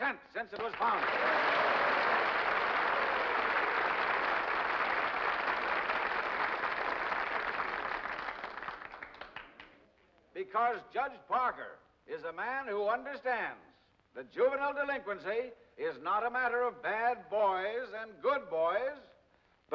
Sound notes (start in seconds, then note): 1.2 crowd cheers and applauds